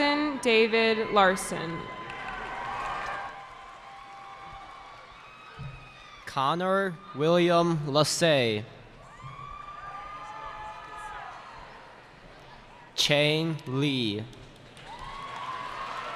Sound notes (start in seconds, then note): 2.5 cheering; 9.0 cheering